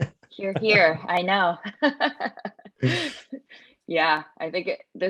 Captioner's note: chuckling